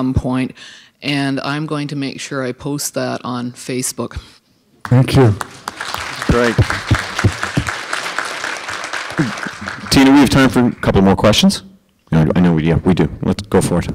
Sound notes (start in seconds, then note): 6.5 applause